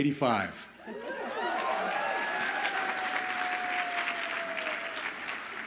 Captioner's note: audience applauds and cheers